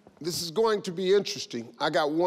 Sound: none

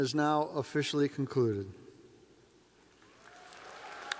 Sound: cheers and applause

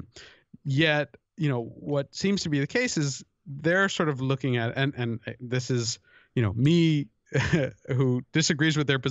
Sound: chuckle

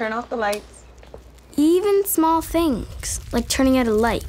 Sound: girl voice over

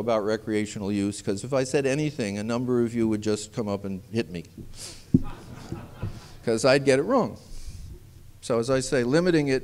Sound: laughter

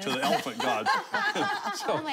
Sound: laughing

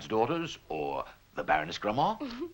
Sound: Bernadette giggling

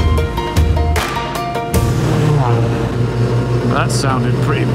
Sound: brrraaaaarrrp!!

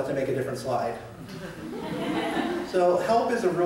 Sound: laughter

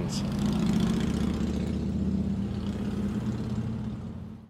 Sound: motorcycle revving

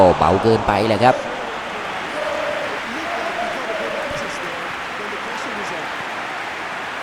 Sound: applause

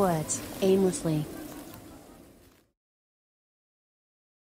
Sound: sound of wind fades

